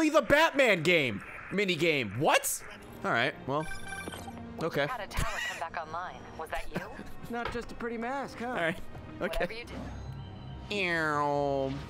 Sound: laughs

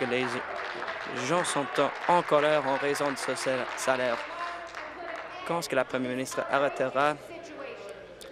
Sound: applause

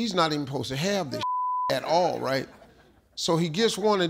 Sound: beep

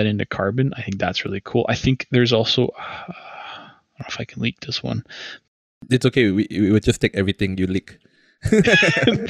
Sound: laughter

